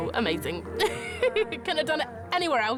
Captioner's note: laughs